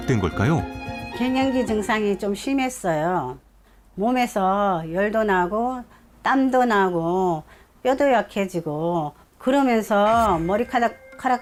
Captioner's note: voiceover